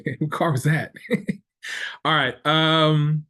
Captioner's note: laughs